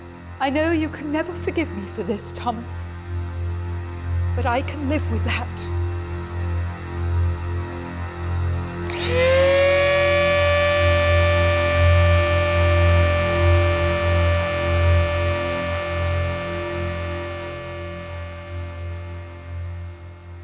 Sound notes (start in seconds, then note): 8.7 tense music; 8.7 whirring drill